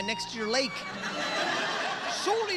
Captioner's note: audience laughter